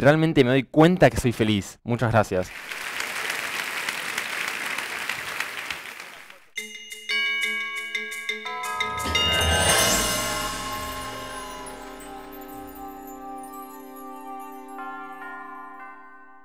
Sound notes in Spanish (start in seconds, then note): 2.4 Aplausos